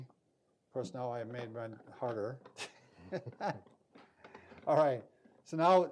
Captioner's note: chuckles